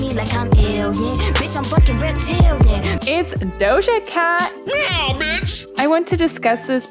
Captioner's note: meow sound